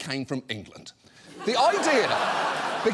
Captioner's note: audience laughs